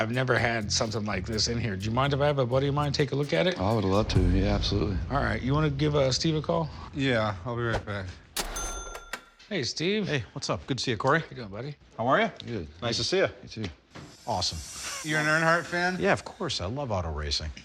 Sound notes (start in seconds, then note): none